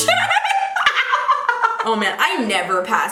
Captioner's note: laughing